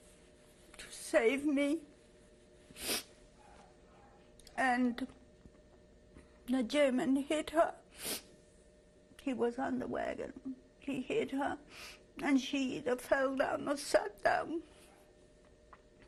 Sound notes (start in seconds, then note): 0.0 pauses for 6 seconds; 1.7 pauses for 3 seconds